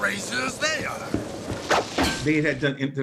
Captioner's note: metal chain slams